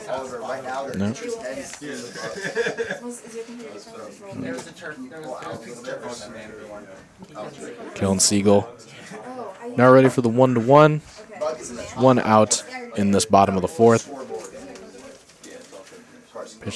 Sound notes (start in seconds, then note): 1.9 chuckles; 3.2 indistinct chatter